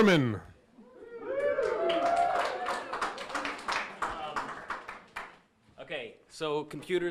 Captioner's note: audience cheering and applauding